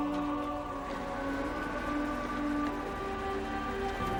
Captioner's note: engines hum